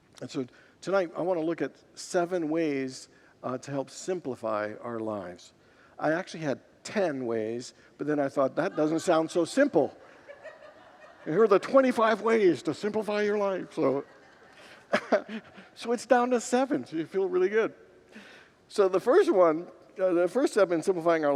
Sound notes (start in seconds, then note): 8.5 congregants laugh; 13.9 laughs with congregants